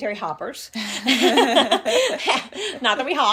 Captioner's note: laugh